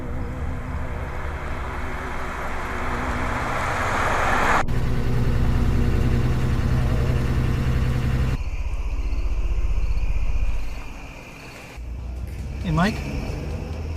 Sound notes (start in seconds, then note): 0.1 car engine rumbling; 4.8 car engine idling; 8.9 insects chirping